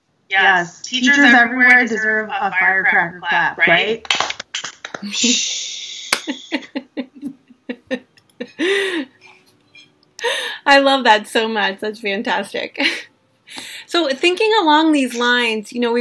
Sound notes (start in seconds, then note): 4.2 claps and laughs